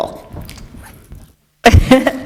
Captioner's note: chuckle